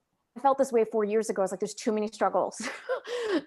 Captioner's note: laughs